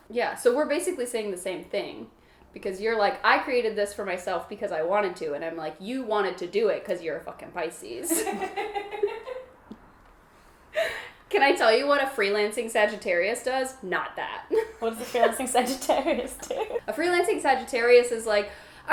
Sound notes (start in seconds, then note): 8.1 laughs